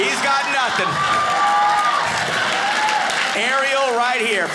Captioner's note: audience laughing